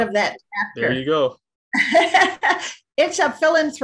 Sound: laughing

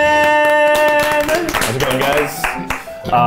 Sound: applauding

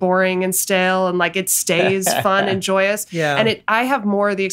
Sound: Glenn laughs

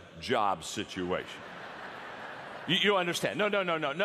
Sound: audience laughter

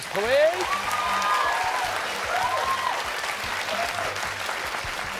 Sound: cheers and applause

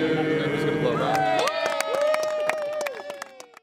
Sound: cheers and applause

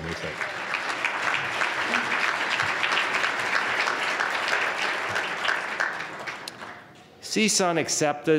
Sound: applause

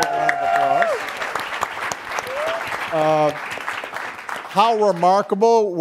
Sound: audience cheering and clapping

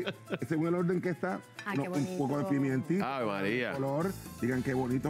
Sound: risas

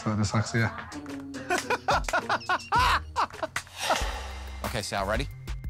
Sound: laughter

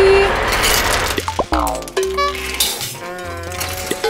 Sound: mechanical noises

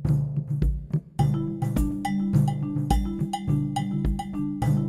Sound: cowbell clanging

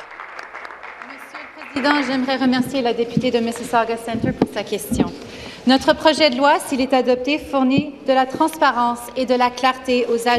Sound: some Applause

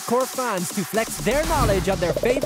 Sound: upbeat music; bubbles popping

